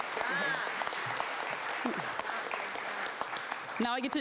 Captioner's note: applause